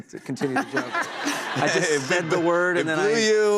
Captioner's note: laughter